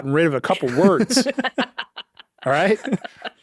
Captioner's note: laughing